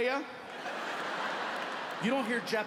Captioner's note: audience laughing